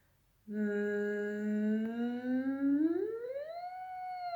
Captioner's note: humming